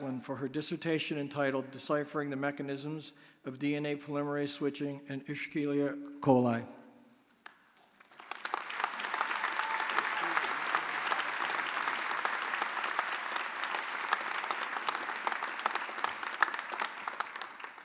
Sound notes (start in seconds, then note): 7.7 audience applauding